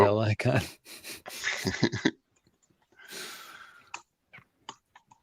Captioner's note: laughter